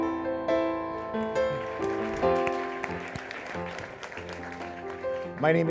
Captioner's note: applause